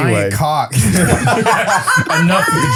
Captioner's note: all laughing